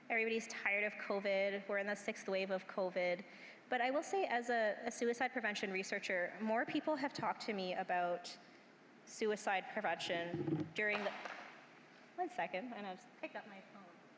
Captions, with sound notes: EVERYBODY'S TIRED OF COVID. WE'RE IN THE 6TH WAVE OF COVID. BUT I WILL SAY AS A SUICIDE PREVENTION RESEARCHER, MORE PEOPLE HAVE TALKED TO ME ABOUT SUICIDE PREVENTION DURING... (CLACKING ON THE GROUND) ONE SECOND, I'M JUST GOING TO PICK UP MY PHONE.